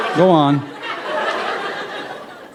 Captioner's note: laughter